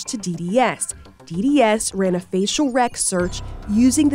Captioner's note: graphics blipping